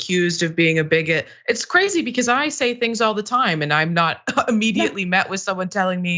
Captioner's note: laugh